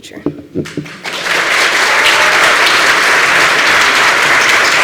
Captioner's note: applause